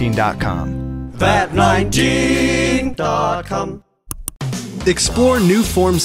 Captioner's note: click